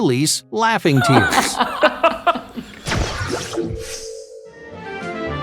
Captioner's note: man and women laughing